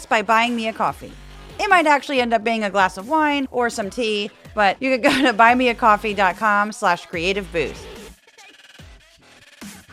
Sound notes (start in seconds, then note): 4.8 laugh